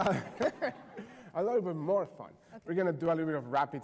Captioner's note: laughter